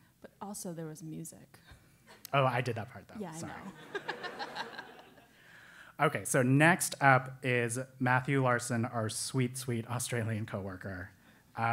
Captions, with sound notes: >> But also, there was music. >> I did that part though, sorry. >> [LAUGH] >> Okay, so next up is Matthew Larson, our sweet, sweet Australian coworker.